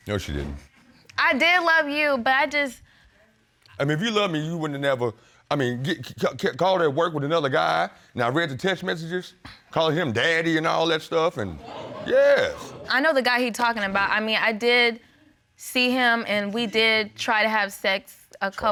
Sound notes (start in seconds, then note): 12.1 audience gasp